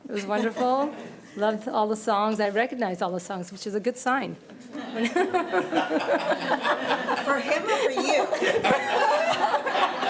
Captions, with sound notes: It was wonderful. Loved all the songs. I recognized all the songs, which is a good sign. (committee laughing) - For him or for you?